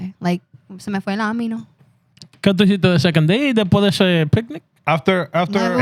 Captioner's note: speaking Spanish